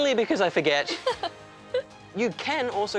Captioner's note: laughs